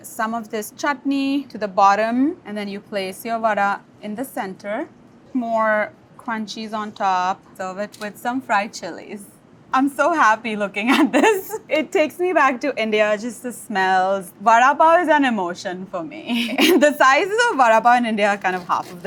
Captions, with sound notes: Some of this chutney to the bottom, and then you place your vada in the center. More crunchies on top. So with it with some fried chilies. I'm so happy looking at this. [laughs] It takes me back to India, just the smells. Vada pav is an emotion for me. [laughs] The sizes of vada pav in India are half of this,